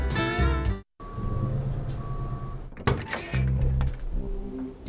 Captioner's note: beep, beep, clunk, squeak